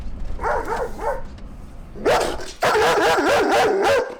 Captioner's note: dog barking